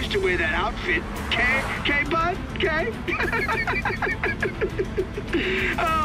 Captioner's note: laughs